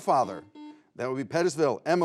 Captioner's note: buzzer beeps